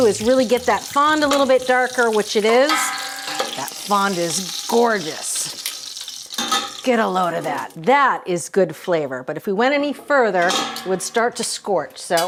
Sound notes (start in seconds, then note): 6.3 metal clanging